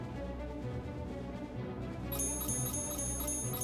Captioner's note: beeping stops